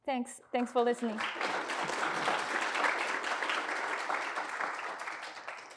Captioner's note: applause